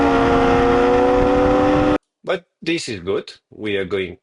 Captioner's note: tires screeching